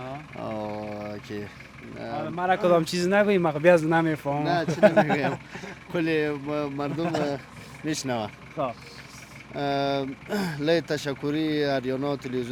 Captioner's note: speaking in Nuristani Language